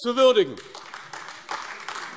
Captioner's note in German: Beifall AfD